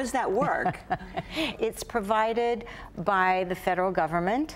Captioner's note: laughs